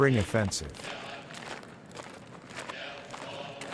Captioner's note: soldiers marching